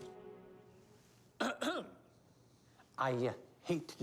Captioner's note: clears throat